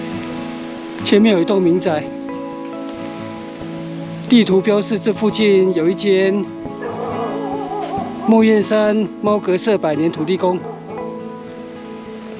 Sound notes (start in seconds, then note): 6.8 dog barking